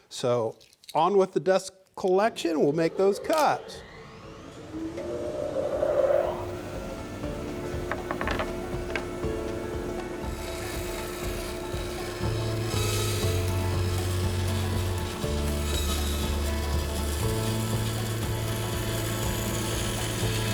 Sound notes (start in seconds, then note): 4.0 power tool humming with upbeat banjo music